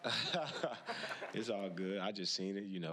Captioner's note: laughing